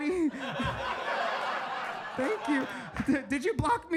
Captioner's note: audience laughs